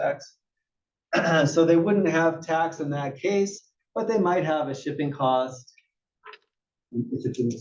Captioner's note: cough